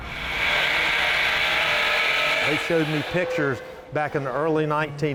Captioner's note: machine whirring